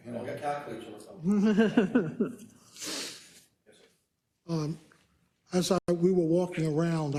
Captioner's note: laugh